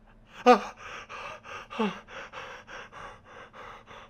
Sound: fan gasps

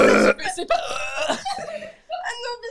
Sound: burp

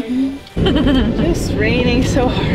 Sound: laughter

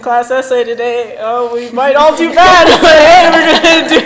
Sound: laughs

